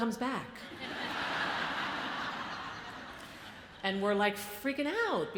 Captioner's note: audience laughs